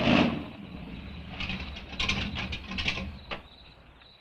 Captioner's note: crickets chirping